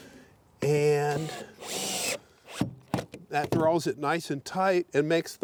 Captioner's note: drill whirring